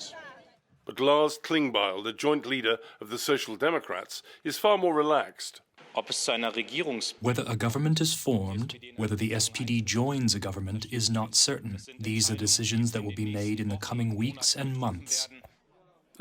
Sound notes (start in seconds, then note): 7.6 through translator